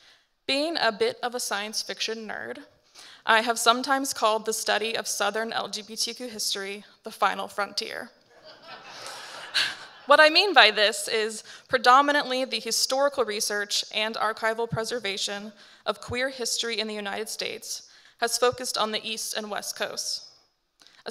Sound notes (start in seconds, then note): 8.4 audience laughing